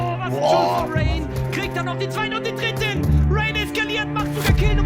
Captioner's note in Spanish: locutor charlando